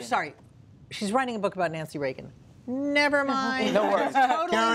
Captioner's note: laughter